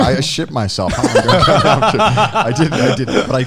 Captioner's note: laughing